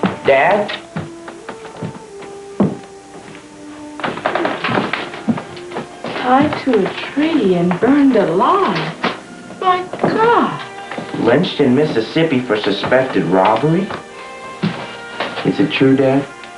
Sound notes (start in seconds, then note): 0.0 footsteps; 4.3 papers rustling